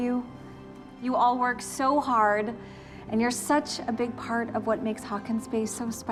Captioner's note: none